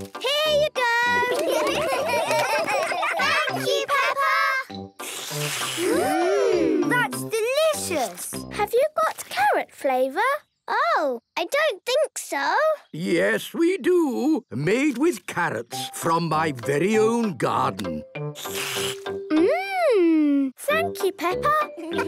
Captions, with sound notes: - Here you go. - Thank you, Peppa! (all slurping) Mmm! - That's delicious! - Have you got carrot flavour? - Oh, I don't think so... - Yes, we do! Made with carrots from my very own garden. - (slurps) Mmmm! Thank you, Peppa!